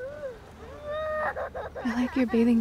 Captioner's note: Elena's crying continues